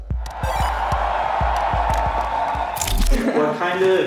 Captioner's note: audience cheering